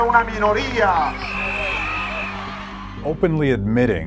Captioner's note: crowd cheering